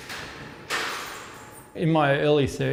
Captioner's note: door unlocking